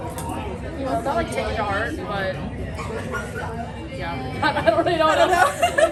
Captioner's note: laughs